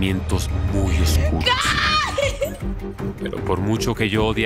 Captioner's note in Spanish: Sollozos